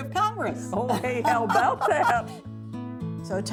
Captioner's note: both laugh